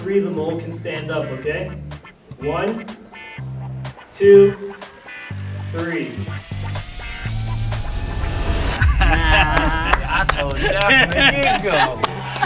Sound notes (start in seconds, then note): 6.2 intense music; 8.8 group laughs